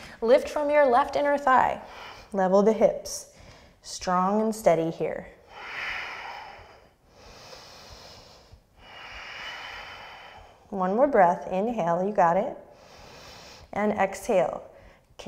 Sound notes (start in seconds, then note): 5.4 deep breathing; 12.6 deep breath